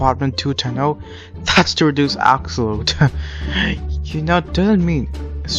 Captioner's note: chuckles